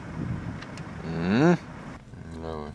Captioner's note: grunting